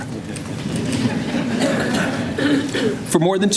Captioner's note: laughter